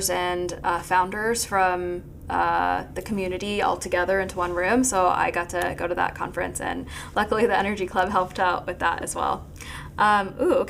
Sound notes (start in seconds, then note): none